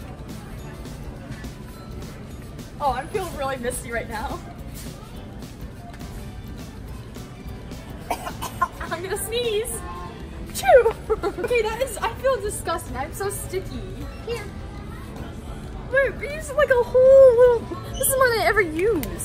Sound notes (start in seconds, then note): 8.0 coughing